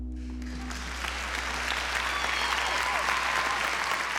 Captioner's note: music fades; applause, cheering